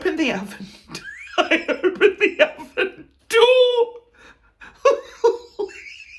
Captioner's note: laughing